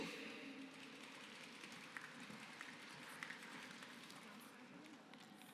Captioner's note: applause